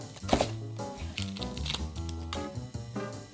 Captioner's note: knife cutting; onion paper peeling